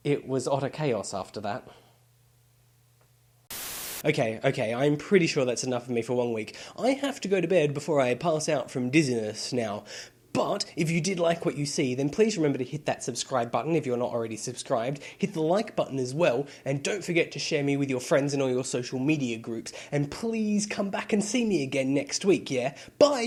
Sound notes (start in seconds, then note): 3.4 Static